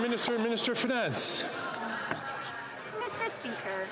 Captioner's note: some Applause